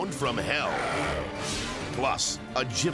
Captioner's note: dog growls